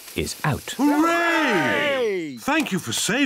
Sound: cheering

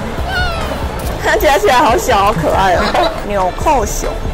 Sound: laughs

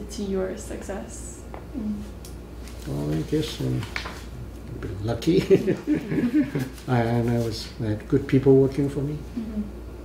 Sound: laughs

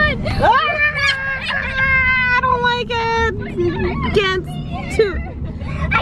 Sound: screams lightly

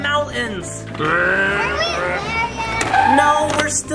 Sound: car revving

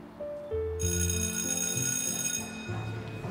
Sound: school bell rings

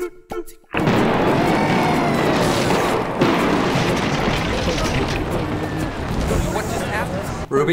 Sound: sound of building imploding

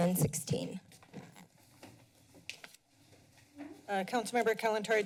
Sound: paper rustling

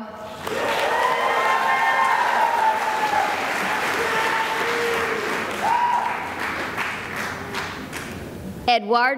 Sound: cheering and applause

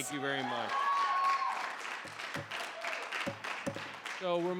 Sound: audience cheering

